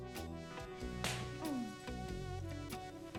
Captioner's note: smack